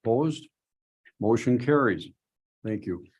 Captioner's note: silence